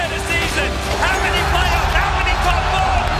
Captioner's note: crowd cheering